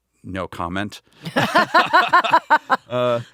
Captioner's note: laughing